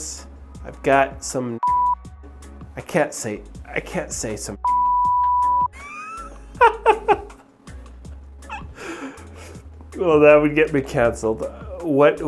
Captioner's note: beep